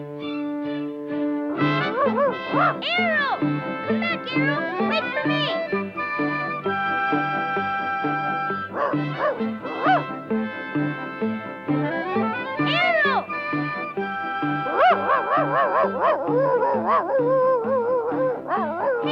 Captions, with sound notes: (uptempo orchestral music) Arrow! Come back, Arrow! Wait for me! (Arrow barking) Arrow! (Arrow barking and howling)